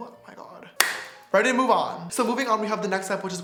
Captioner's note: claps